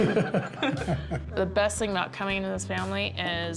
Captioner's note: chuckles